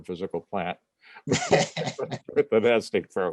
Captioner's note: laughter